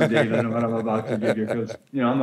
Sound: laughing

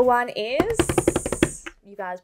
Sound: hitting table

